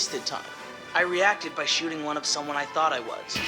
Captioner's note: voiceover